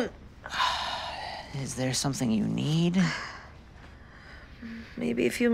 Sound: sigh

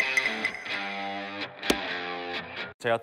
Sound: stamping

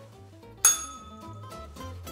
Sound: bell rings

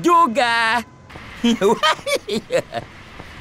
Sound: laughs proudly

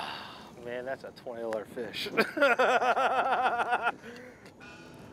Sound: both laugh

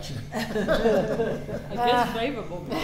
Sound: all laughing

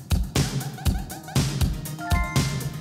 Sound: upbeat music; electronic beeping; electronic chiming

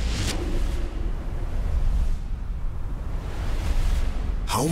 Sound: air whooshing

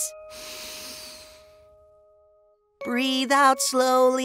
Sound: inhales

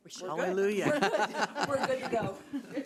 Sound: people laughing

